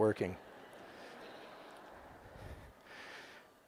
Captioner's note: audience laughing